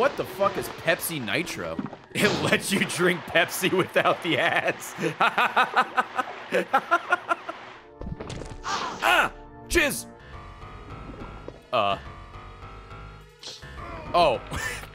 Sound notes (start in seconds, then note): 4.1 laughs